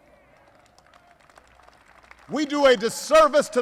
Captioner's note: applause